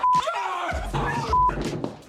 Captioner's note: both screaming